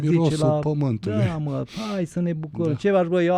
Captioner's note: snort